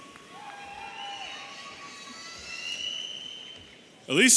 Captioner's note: audience cheering